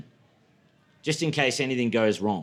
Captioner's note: none